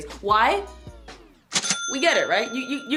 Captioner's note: cash register dings